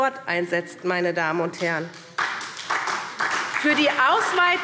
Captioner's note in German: Beifall SPD